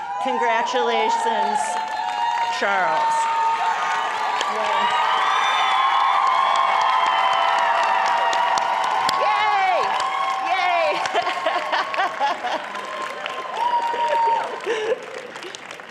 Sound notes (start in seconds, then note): 3.2 cheering and applause